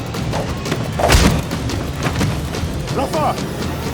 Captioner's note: blows thudding; air whooshing